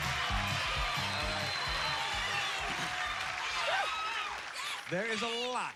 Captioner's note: cheers and applause